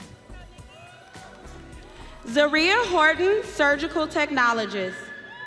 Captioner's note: audience cheering